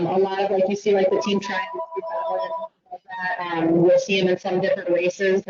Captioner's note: phone ringing